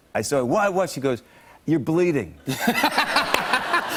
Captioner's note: laughs